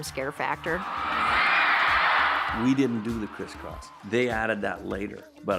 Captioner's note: audience cheering